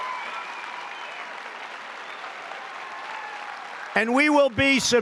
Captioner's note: applause